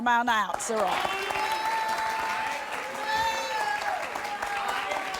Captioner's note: audience boos